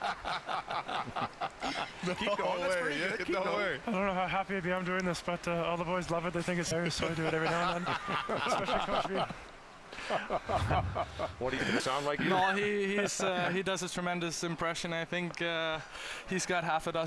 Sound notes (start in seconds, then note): 4.8 laughter